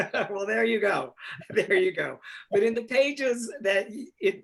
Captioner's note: laughs